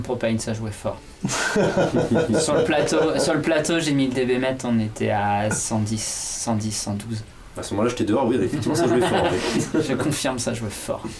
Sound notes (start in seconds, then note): 1.3 laughs